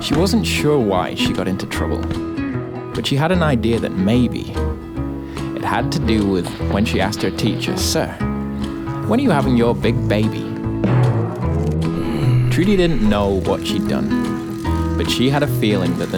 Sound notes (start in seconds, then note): 11.3 grumbling